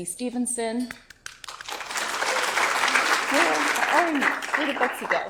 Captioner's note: audience applauds